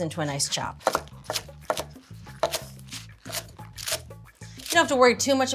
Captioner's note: knife clatters